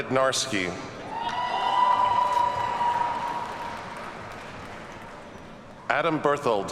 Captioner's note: audience cheers and applauds